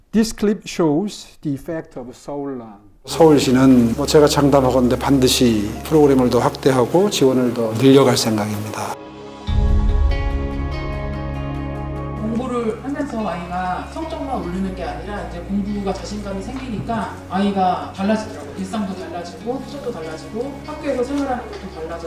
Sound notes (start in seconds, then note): 9.6 uplifting music; 12.5 pupil's parent speaking Korean